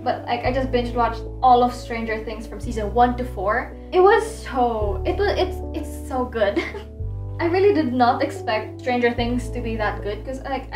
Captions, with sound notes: But I just binge-watched all of Stranger Things Seasons 1 to 4. It was so--[stammers]--it's so good. [giggles] I really did not expect Stranger Things to be that good 'cause like,